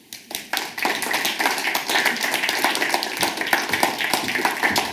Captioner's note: audience applauds